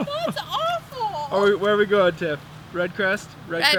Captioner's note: laughs